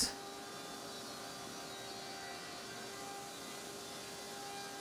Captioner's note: machine whirring